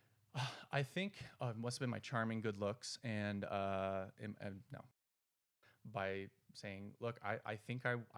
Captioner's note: sigh